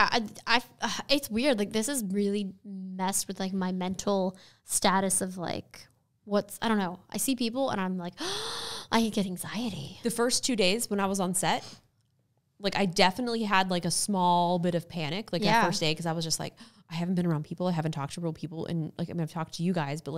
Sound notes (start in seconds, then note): 8.2 sigh